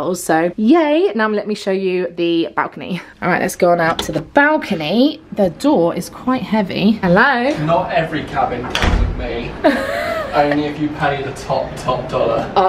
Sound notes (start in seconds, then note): 8.6 door banging; 9.6 laughing